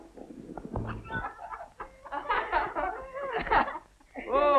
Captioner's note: laughing